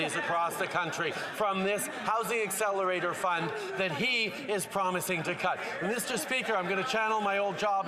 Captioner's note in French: voix de l'interprète